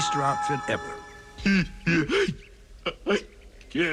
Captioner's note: crying